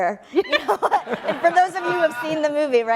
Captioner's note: laughs